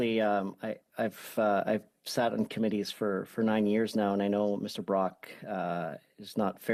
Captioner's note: speaking French